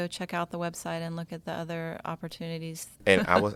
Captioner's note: laugh